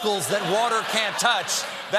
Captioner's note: laughter